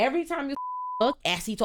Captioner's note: beep